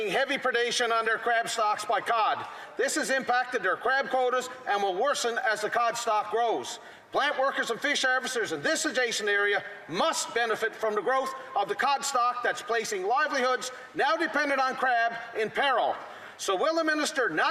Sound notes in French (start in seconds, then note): 2.5 voix de l'interprète